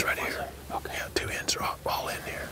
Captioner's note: whispering